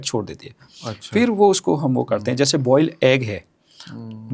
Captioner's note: nasal sound